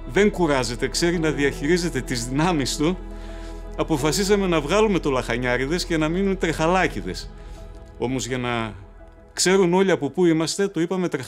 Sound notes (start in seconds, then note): 3.1 heavy breathers